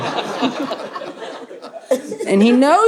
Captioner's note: audience laughs